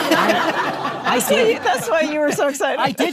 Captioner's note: audience laughing